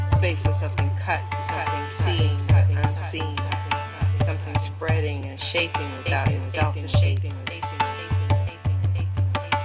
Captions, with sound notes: Spaces have been cuts. Something seen, seen. Something spreading and shaping, shaping (echoes).